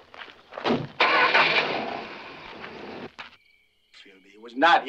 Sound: engine cranking

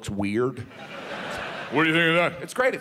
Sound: audience laughs

